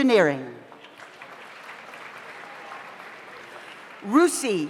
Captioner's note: audience applauds